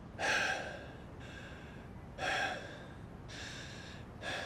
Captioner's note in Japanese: ため息; 息をのむ音